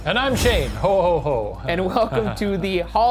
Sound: laughing

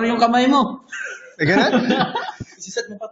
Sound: laughter

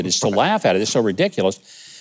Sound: laughing

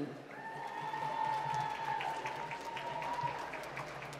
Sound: applause

